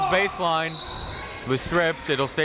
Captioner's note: whistle